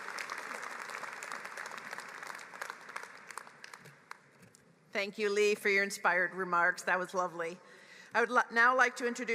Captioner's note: applause